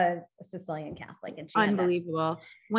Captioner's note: speaking faintly